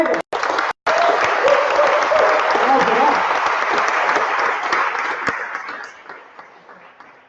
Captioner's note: applause